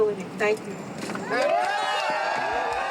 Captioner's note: cheers